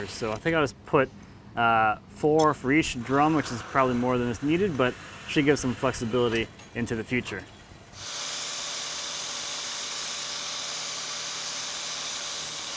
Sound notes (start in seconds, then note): 7.9 grinding machine running